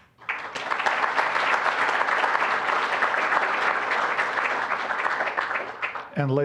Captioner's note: applause